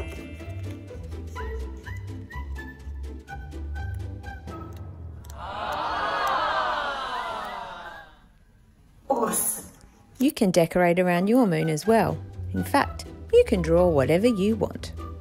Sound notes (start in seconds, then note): 5.2 awestruck crowd